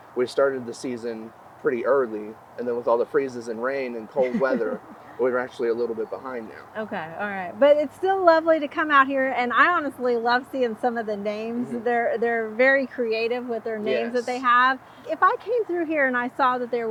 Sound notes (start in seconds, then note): 4.0 interviewer chuckling